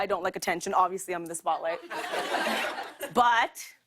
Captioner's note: laughter